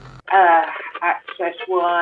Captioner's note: static radio interference